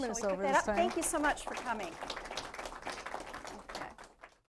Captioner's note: applause